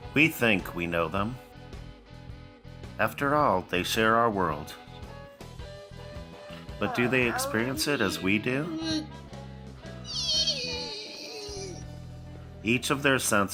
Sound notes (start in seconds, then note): 10.1 autistic grunt